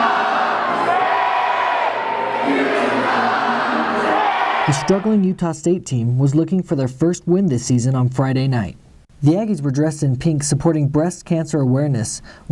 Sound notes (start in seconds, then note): 0.0 Chanting "Utah State"